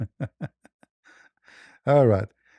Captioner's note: ketawa